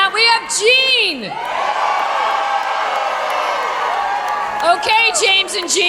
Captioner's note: cheering